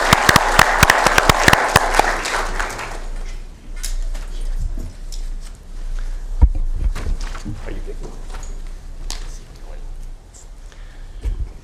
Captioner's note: applause